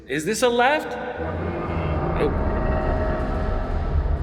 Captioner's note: industrial groaning